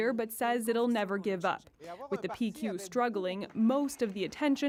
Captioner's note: speaking french